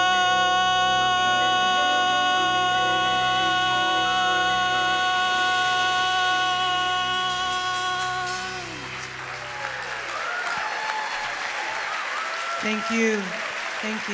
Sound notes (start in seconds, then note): 8.7 audience applauding; 8.7 audience cheering